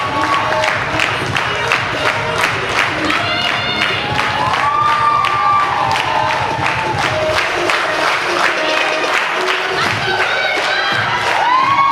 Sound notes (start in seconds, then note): 0.7 rhythmic clapping; 6.0 audience cheers